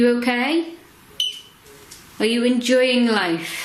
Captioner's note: beep